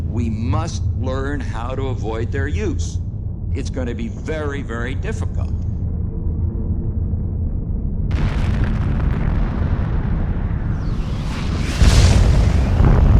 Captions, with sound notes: We must learn how to avoid their use. It's gonna be very very difficult. (explosion rumbles)